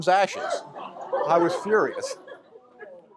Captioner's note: gasps